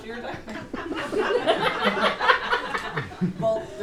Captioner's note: audience laughing